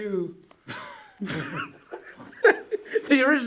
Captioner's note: both laugh